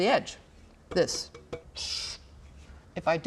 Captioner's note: tapping; scrape